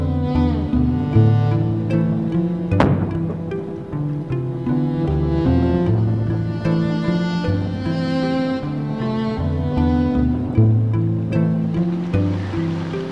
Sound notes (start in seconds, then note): 2.8 loud bang